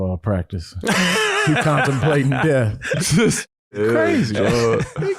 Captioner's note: laughing